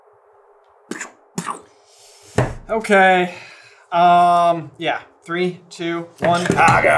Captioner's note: pchoo, pchoo